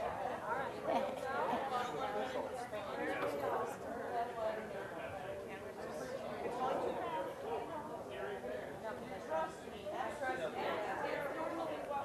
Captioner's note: general chatter